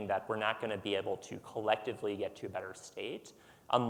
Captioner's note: none